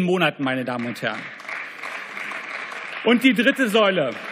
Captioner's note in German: Beifall